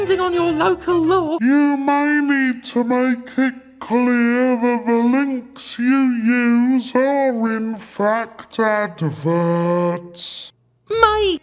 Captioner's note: voice warps